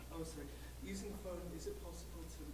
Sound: voiceover

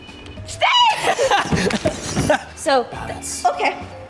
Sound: laughing

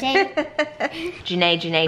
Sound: laughs

